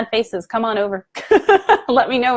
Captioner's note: laughing